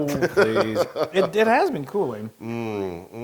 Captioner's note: laugh